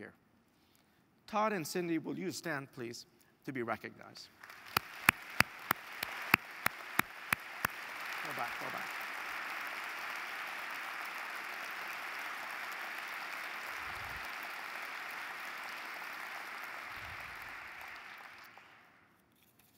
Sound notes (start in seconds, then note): 4.2 applause